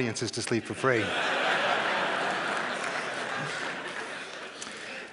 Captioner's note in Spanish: Risas